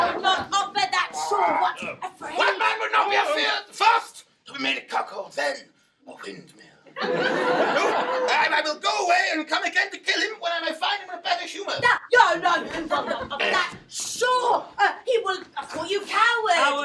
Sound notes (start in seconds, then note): 6.9 audience laughing